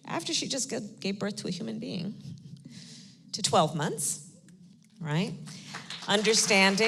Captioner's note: applause